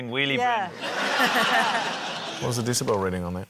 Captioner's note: laughter